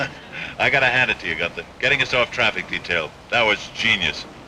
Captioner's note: chuckles